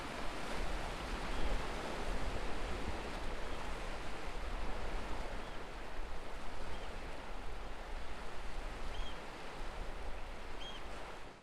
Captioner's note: sound of waves and an oystercatcher bird calling